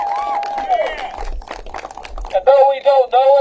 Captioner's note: applause